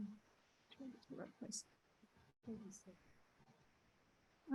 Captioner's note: people chattering